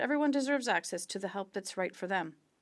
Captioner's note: speaking French